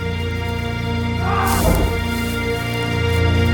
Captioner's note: yelling